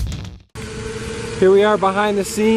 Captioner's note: drone Whirling